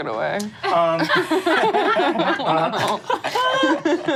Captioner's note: audience laughs